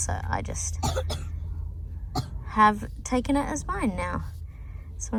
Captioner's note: continues coughing